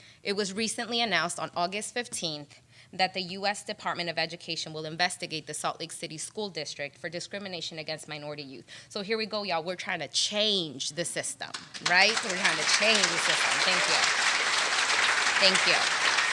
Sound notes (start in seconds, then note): 13.6 applause